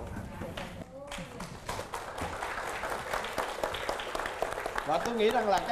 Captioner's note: applause